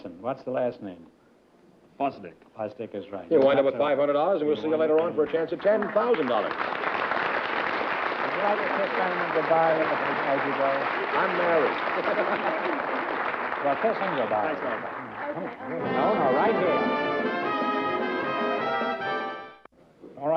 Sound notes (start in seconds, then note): 6.4 applause; 8.1 chatter; 10.8 laughs; 12.0 chatter